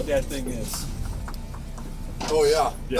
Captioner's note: knocking